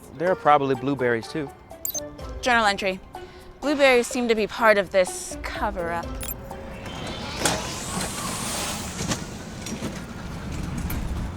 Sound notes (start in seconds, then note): 6.4 bike whizzing